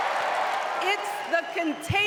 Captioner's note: applause; cheering